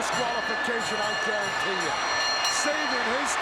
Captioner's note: bell ringing